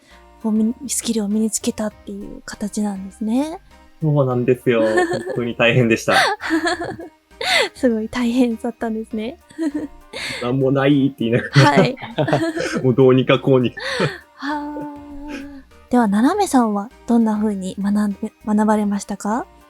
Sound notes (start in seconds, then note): 4.6 chuckles; 9.3 chuckles; 13.7 chuckles